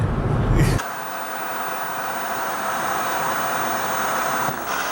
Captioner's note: TV Static